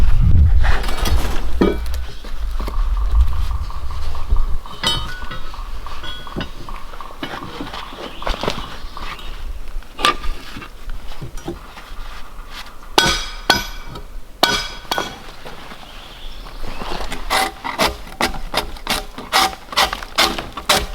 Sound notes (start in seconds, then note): 4.6 log dog clanging; 14.4 hammer clanging; 17.6 drawknife scraping